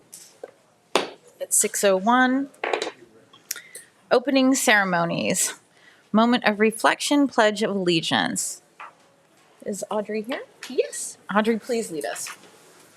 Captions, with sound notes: (gavel thumping) at 6:01, opening ceremonies. Moment of reflection, Pledge of Allegiance. Is Audrey here? - Yes. - Audrey, please lead us.